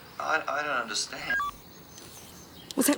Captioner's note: recorder beeps